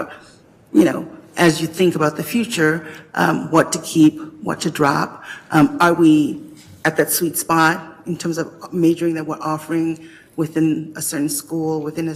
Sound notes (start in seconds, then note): none